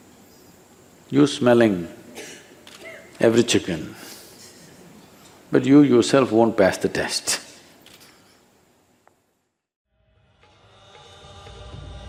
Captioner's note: laughs